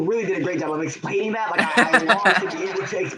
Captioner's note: laughing